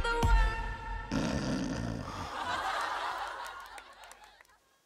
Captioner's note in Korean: 혼자 드르렁